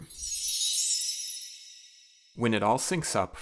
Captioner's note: chime